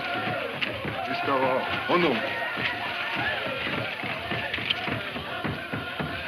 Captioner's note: man speaking in foreign language